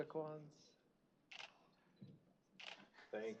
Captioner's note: camera shutters